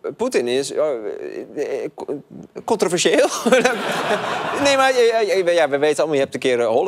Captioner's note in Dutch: gelach